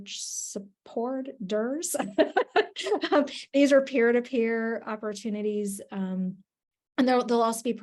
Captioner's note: laughs